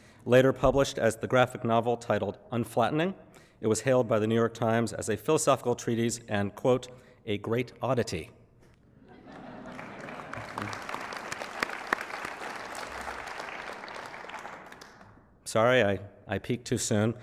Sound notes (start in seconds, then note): 9.6 applause